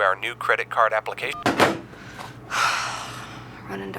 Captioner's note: line clicks; sighs